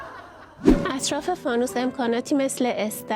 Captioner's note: laughter